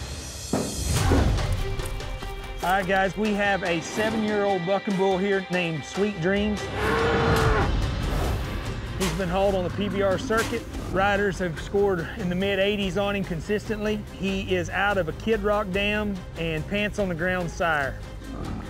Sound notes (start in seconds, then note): 6.6 bull bellows